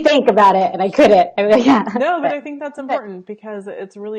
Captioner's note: laughing